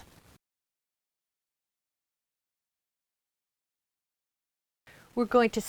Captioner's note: no Sound Present